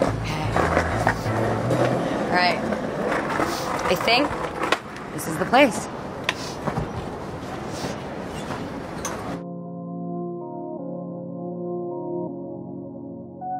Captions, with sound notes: Okay. All right. I think this is the place. [sniffs]